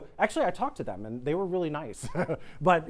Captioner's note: laughs